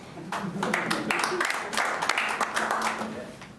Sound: clapping

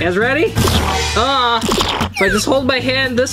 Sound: water squirts

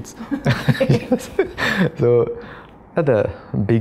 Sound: laughs

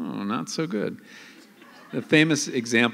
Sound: laughter

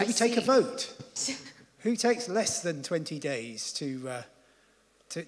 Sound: laugh

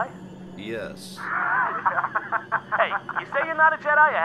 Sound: laughter

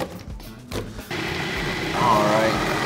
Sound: processor whirring

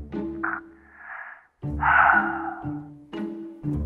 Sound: sighs

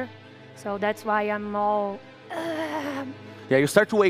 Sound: groans in pain

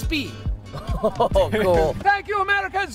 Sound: chuckling

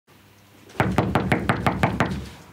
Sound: knocking

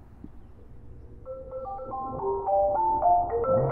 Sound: phone ringtone fades in

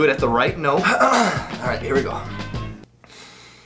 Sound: clears throat

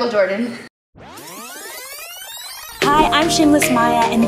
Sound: rewinding tape

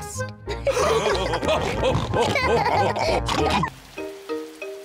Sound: all laughing

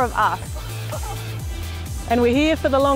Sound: laughing

